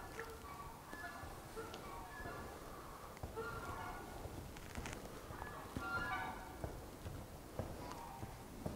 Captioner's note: wind in the background